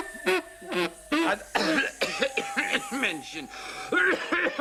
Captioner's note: coughing